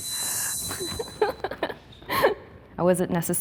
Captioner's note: laughing